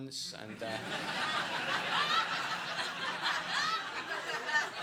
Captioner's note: audience laughing